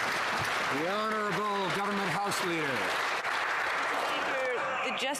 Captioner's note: some Applause